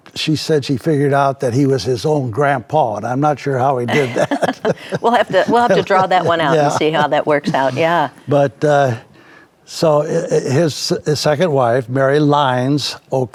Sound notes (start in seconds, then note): 3.9 both laughing